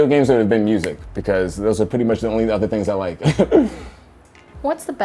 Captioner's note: laughs